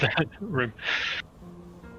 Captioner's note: nervous breath